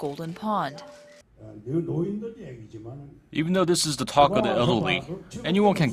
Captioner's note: korean